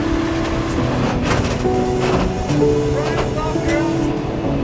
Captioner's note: truck thudding